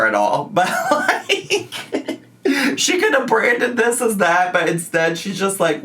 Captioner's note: laughs